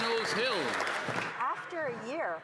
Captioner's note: some Applause